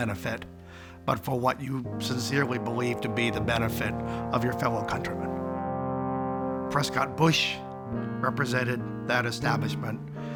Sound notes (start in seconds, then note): none